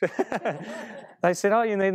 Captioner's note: laughing